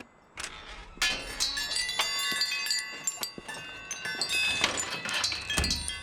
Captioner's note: door creaking; chimes tinkling; door closes